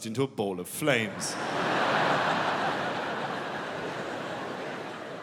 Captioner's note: audience laughing